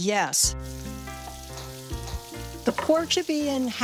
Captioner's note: water running